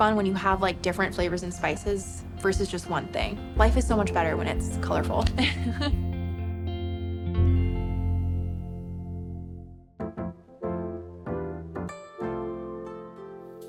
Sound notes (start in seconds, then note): 5.3 laughs; 10.1 upbeat music